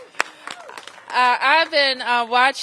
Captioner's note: applause